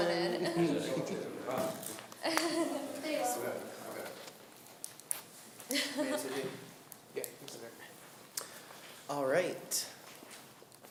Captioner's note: laughing